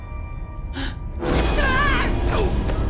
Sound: screaming

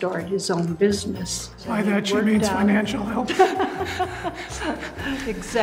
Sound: laugh

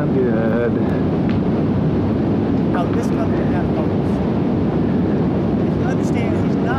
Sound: rushing wind noise continues

